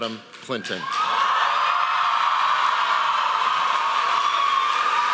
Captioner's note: audience applauding